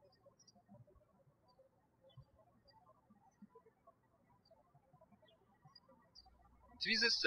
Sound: bird chirping

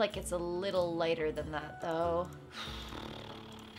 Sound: sighs

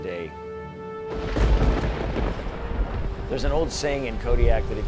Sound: thunder cracking

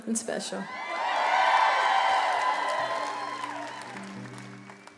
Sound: audience cheering

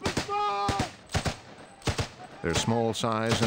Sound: continuous gunfire; voiceover

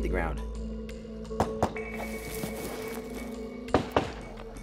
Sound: gunfire

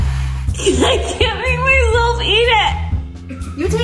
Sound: laughs; laughs

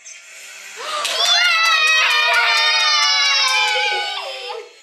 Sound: everyone cheers

